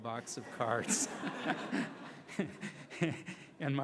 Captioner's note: laughing